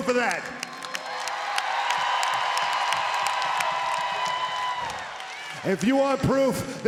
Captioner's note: applause